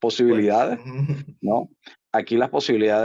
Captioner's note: laugh